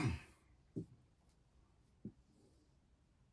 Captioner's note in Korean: 목을 가다듬음